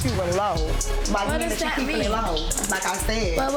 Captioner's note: overlapping chattering